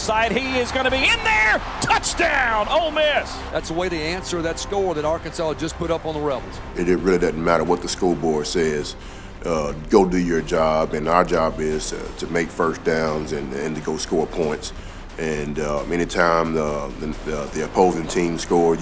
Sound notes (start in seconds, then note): 3.6 voiceover